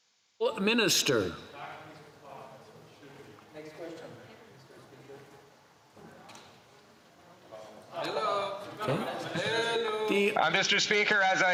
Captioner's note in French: voix de l'interprète